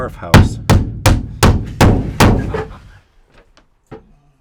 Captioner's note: banging continues